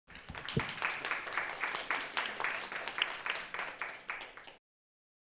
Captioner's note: audience applauding